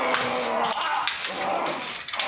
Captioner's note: grunting